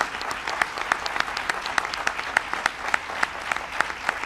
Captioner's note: applause